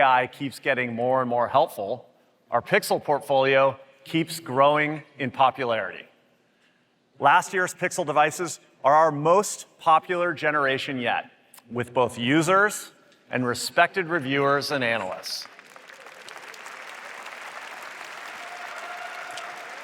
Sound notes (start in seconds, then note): 15.3 applause